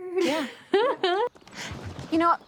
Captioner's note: chuckles